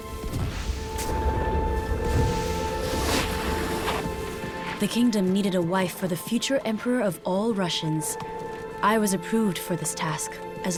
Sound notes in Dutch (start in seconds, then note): 0.0 knisperende sneeuw; 3.1 slee schraapt